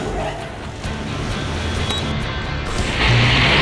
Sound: beeping

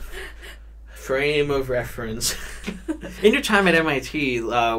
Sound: all chuckle

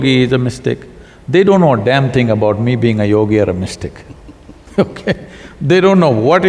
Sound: both laugh

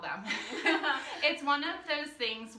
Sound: laughing

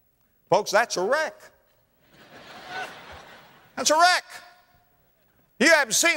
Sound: audience laughter

